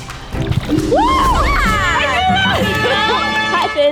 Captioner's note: triumphant music; both cheering